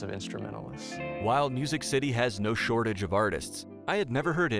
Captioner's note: voiceover